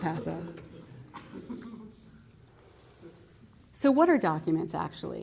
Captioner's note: laughter